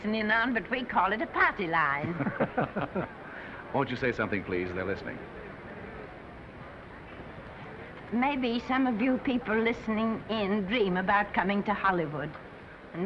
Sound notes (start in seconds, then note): 2.0 men laughing